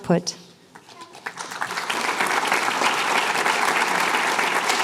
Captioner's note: applause